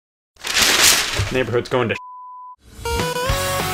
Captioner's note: beep